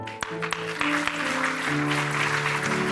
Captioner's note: applause